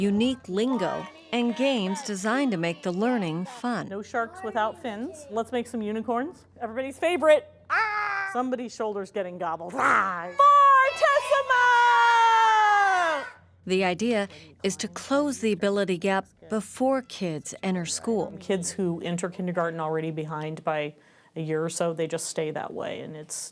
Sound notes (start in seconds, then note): 7.8 shouts softly